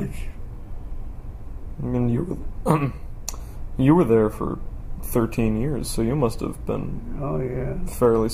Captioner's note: clears throat